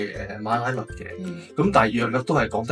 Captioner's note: in Malay